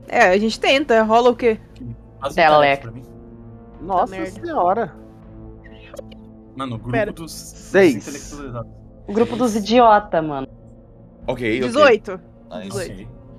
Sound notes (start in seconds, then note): 6.6 laughing